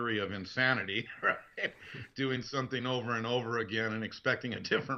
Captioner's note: laughing